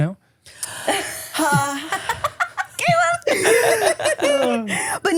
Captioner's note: laughing